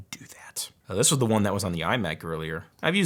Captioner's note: none